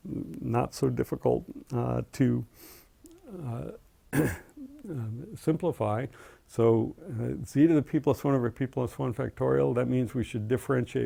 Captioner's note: cough